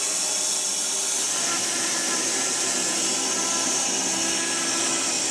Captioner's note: saw continues buzzing